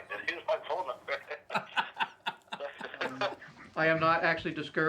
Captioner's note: both laughing